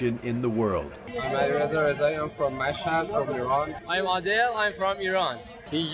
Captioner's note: through translator